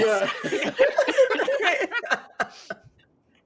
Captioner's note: laughing